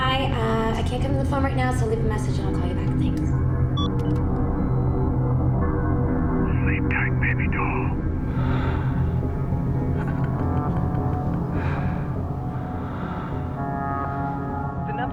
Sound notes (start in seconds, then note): 8.2 man breathing; 9.7 man chuckling